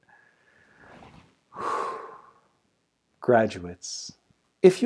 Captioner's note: deep breath